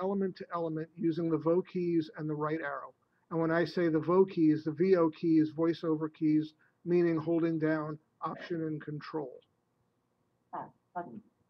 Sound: software speaking

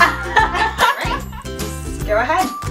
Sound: laughter

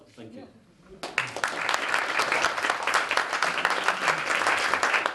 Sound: applause

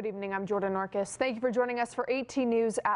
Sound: Static

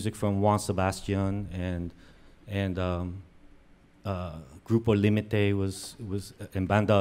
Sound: speaks in foreign language

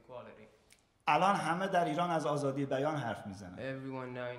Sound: speaking in farsi

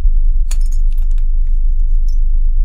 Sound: glass breaks

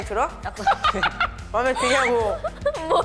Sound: laugh

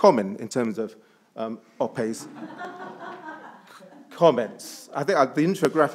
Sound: attendees laughs

